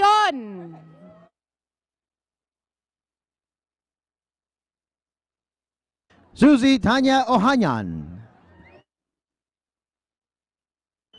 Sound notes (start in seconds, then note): none